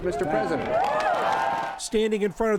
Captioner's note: cheering and applause